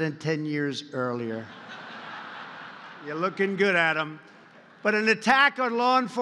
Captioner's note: laughter